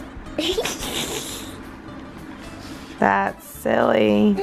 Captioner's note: laughs